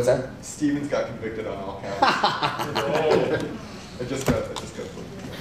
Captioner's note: laughter